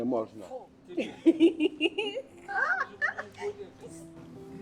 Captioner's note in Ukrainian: сміх